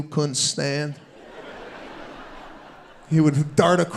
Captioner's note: audience laughing